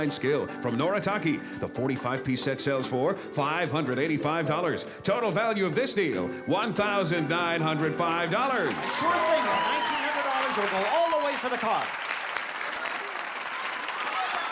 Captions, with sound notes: from Noritake. The 45 piece set sells for $585. Total value of this deal, $1,905! [CHEERING] - Sure thing! $1,900 or go all the way for the car? [APPLAUSE]